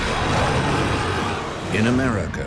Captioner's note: creature growling